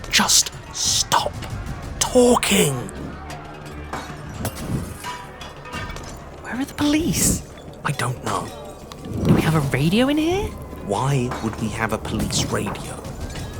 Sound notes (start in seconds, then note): 3.6 glass shattering in the distance